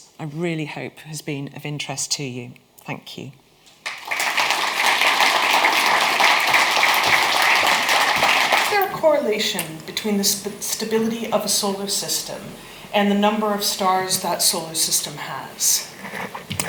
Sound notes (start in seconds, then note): 3.8 audience applauds